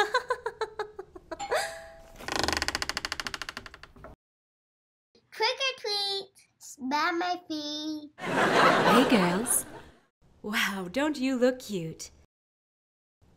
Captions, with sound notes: (laughs) (doorbell rings) (door creaks) - Trick or treat! - Smell my feet. (audience laughs) - Hey girls. Wow, don't you look cute.